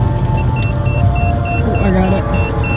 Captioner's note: detector beeping